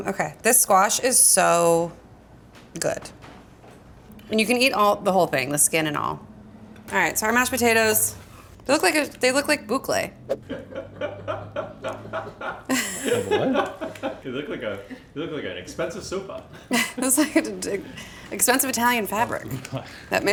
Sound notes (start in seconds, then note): 10.7 crew laughing